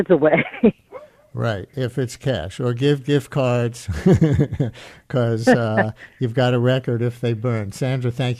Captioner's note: chuckles; chuckles